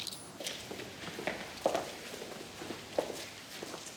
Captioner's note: footsteps